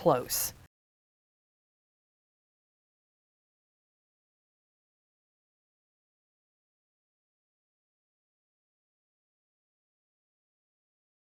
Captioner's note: no Sound Present